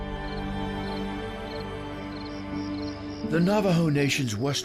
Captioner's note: crickets chirping